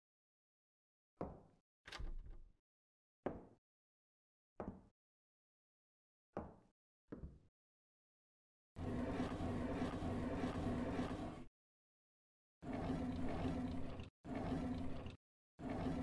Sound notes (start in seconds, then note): 8.8 drawers opening and closing